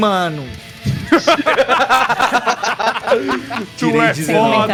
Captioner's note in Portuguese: Risadas